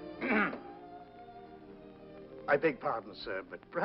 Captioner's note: Albert clears his throat